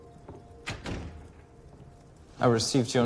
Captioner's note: door opens, closes